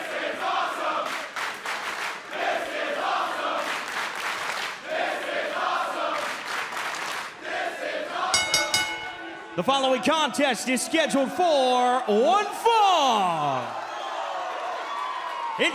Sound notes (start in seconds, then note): 0.0 fans chanting; 8.3 bell ringing